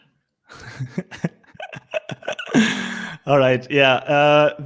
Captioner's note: laughing